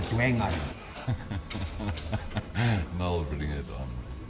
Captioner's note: Solly laughs